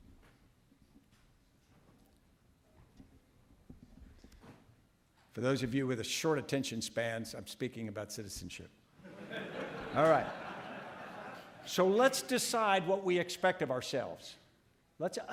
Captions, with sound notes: - For those of you with short attention spans I'm speaking about citizenship. (audience laughing) Alright. So let's decide what we expect of ourselves,